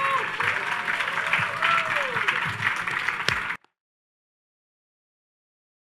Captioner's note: audience cheers and applauds